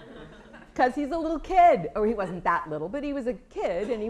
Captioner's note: laughter